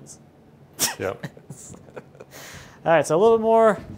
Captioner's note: laughing